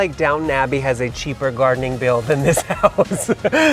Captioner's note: laughs